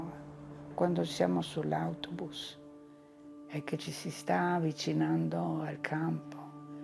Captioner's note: continues speaking in foreign language